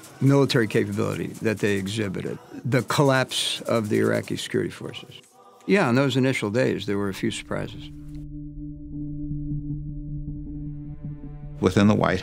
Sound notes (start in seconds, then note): none